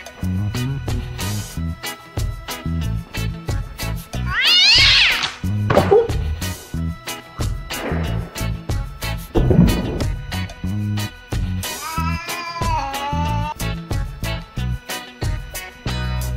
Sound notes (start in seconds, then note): 4.2 oriental Colorpoint Meowing